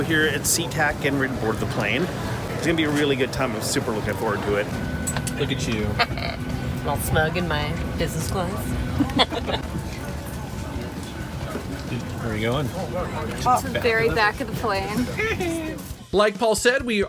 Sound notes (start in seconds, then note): 8.9 laughs